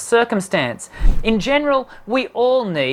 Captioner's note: wooshing